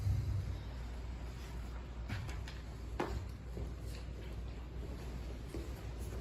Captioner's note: inhale; exhale